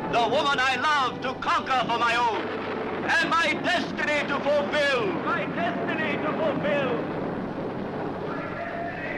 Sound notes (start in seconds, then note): 4.8 shouts echoing